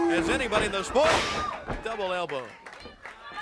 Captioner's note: crowd chatter